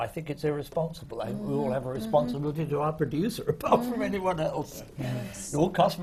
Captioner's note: laughs